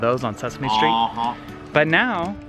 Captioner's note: honking